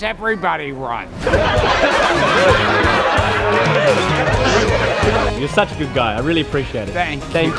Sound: laughter

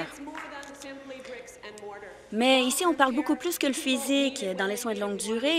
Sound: applause

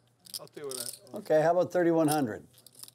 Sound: voiceover

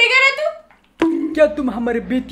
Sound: bonk

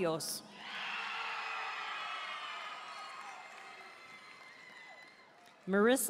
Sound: audience cheering and applauding

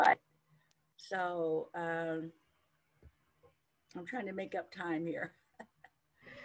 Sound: chuckles

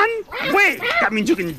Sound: tango barks

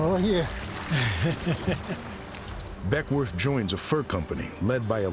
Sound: chuckling

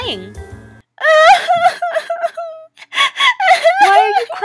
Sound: crying

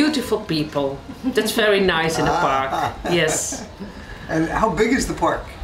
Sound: laughs

